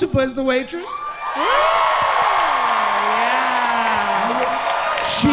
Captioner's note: audience cheering